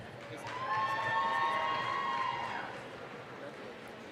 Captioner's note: applause, cheering